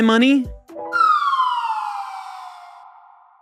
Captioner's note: whistling